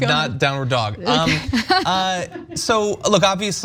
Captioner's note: laugh